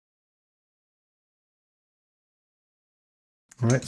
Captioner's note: silence